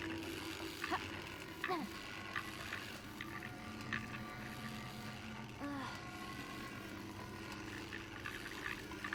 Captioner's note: grunting